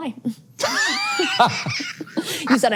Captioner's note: laughs